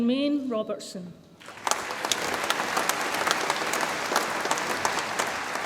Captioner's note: audience applauds